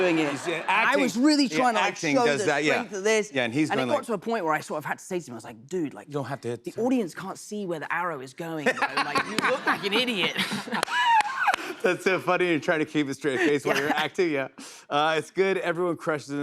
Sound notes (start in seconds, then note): 8.6 laughter